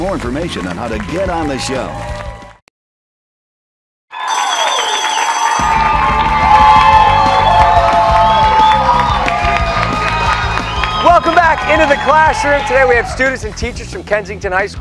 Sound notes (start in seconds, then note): 6.9 bell rings; 8.6 cheers and applause